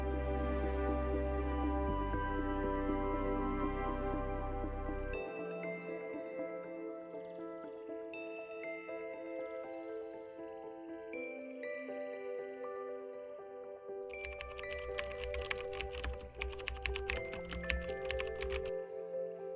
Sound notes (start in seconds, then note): 14.1 keyboard clacking